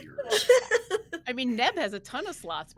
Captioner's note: laughing